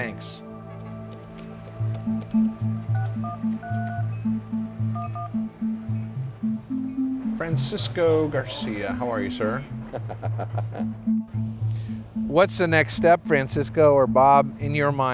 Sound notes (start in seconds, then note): 2.0 phone keypad beeping; 10.5 laughs